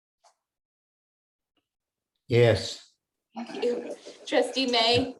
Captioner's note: laughter